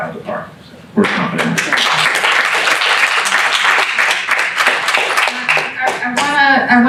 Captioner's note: applause